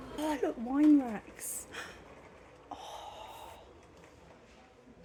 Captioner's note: gasp